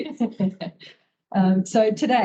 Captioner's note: both laugh